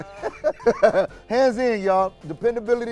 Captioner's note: laughs